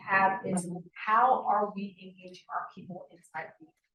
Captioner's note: sound distorted